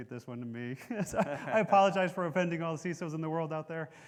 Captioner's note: laughing